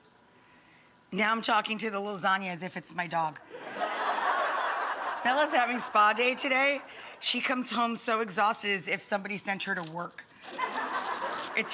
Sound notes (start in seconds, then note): 3.5 audience laughing; 10.5 audience laughing